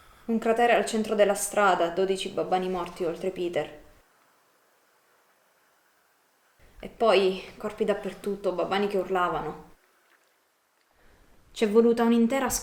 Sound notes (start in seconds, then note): 0.1 Mary's voice; 6.7 Mary's voice